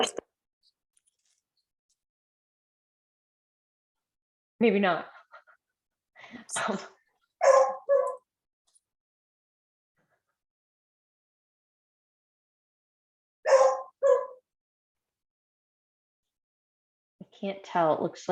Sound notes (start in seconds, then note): 13.4 dog barking